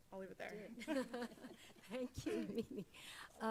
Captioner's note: laughs